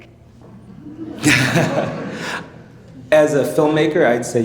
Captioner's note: attendees laughing